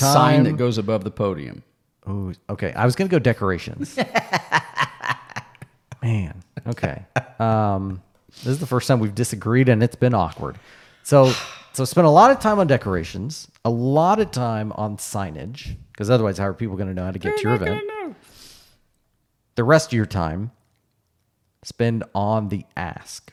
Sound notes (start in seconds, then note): 3.8 laughing